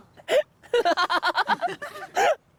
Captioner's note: sobs; laughs maniacally